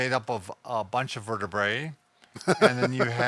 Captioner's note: chuckles